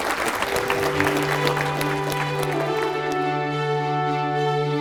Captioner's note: applause